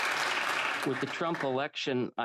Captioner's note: applause